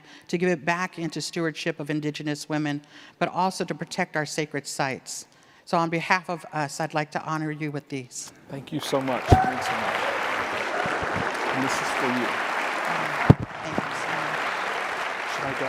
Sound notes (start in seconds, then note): 8.6 audience clapping and cheering